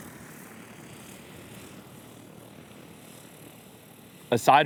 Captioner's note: blades whirring